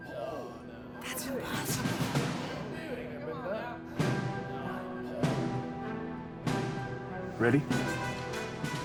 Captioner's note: crowd murmurs